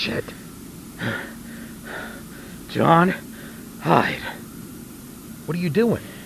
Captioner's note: panting